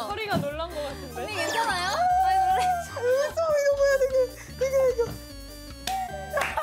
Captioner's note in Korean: 거의 우는 중ㅋㅋㅋㅋㅋㅋㅋㅋㅋㅋㅋㅋ